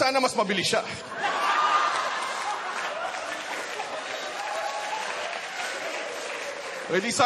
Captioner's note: laughter